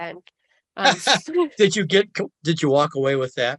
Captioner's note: laughing